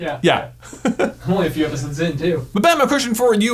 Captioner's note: laughs